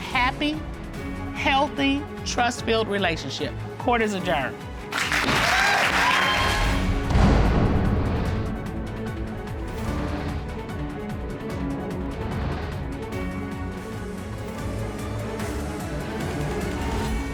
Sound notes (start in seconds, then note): 4.9 cheers and applause